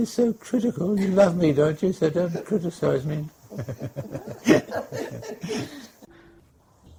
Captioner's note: laughter